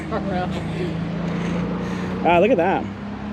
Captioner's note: laughs